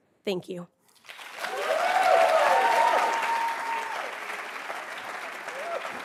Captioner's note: attendees cheering and applauding